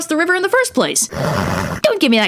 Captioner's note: horse sound